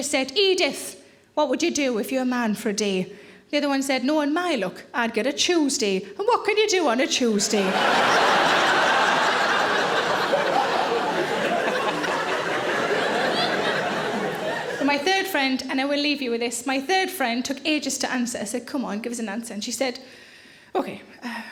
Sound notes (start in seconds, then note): 7.4 audience laughing